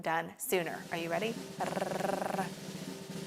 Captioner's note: imitates drum roll; drum roll